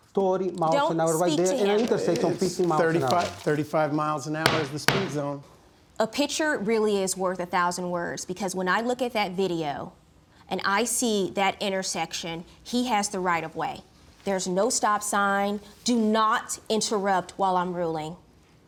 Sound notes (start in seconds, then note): 4.4 gavel bangs